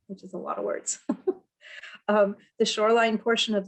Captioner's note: chuckles